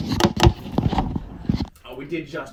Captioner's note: microphone rustles